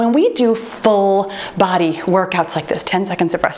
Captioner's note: timer beeps